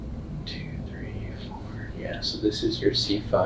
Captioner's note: whispers